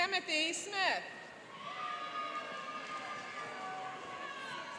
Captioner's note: cheering